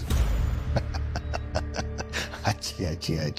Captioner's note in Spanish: Ríe